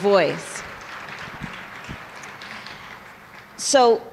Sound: applause

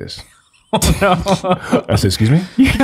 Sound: laughs

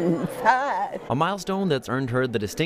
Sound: talking and laughing

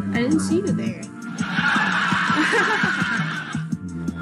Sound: laugh track; fake laughs

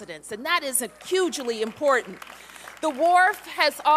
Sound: applause

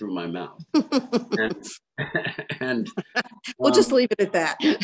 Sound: both laugh

